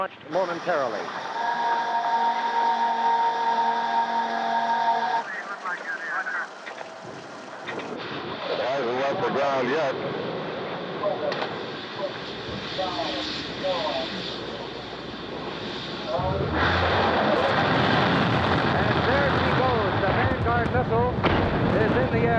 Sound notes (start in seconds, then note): 1.3 alarm blaring; 4.9 radio squawking; 17.0 engines roaring